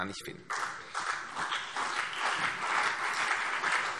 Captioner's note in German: Beifall CDU und BÜNDNIS 90/DIE GRÜNEN